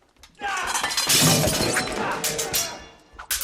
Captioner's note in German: Geschrei